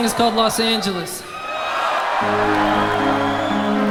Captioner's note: audience cheers; dreamy synth music